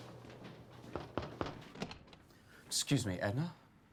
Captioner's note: knocks on door